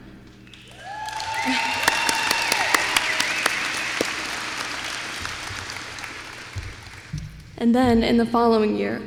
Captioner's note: applause